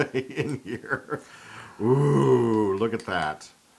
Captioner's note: laugh